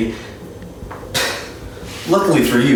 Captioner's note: exhale